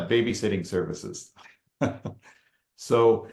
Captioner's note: laughs